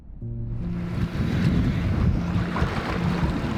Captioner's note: waves lapping